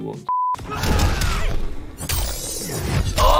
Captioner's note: fighting noises; metal slicing into metal; grunting